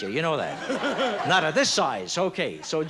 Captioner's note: laughs